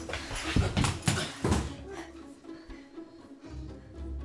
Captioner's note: man thuds